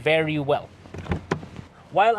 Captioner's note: door opens